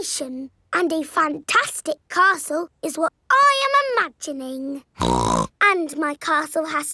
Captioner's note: snorts